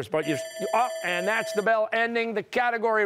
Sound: bell ringing

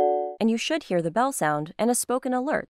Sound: doorbell rings

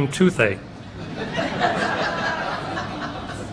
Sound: laughter

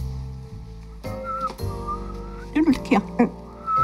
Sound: whistling; whistling

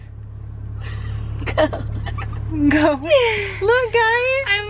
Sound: giggles

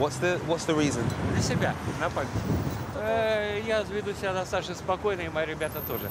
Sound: speaking in foreign language

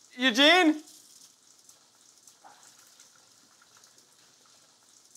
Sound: water splashing

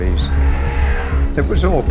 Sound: elephant roaring

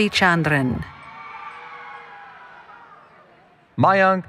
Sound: cheering

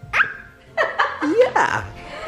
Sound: mom laughing

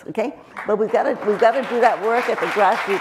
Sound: crowd clapping

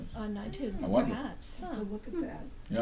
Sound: voiceover

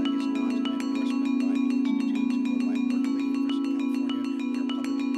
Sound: background talking

